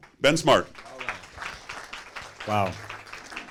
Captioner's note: applause